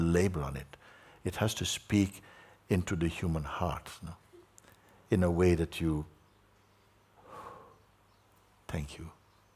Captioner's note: exhales